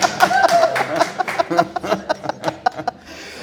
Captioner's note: both laughing; all laughing